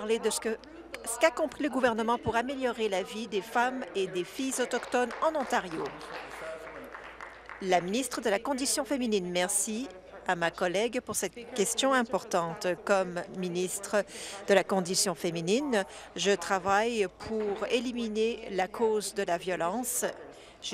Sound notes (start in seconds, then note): 8.2 applause